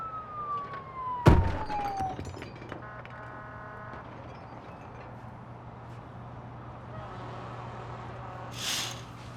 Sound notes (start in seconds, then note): 1.3 banging and glass breaks in room next door; 2.8 horn honks